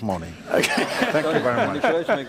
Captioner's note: laughter